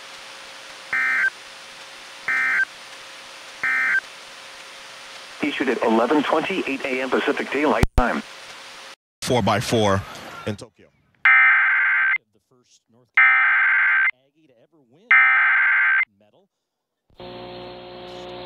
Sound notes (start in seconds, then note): 11.1 SAME header tones